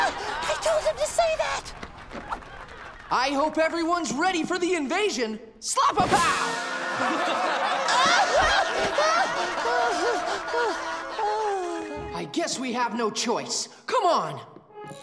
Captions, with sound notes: I told him to say that! I hope everyone's ready for the invasion! Slap-a-pow! [laughing] [sighing] I guess we have no choice, come on!